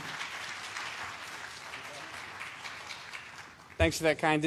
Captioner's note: applause